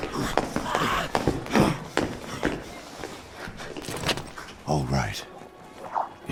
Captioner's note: running footsteps, heavy breathing